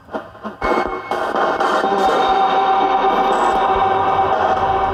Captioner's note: static buzzing